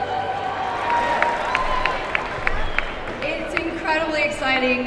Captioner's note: applause